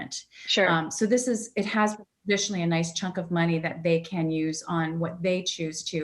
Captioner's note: audio warps